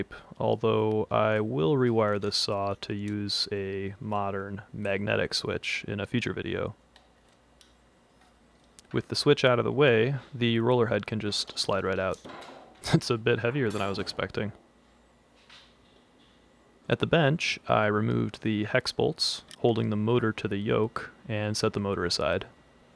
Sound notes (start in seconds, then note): 12.2 sound of the yoke hitting the table; 12.8 chuckle